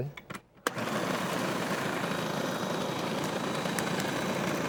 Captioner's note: food processor humming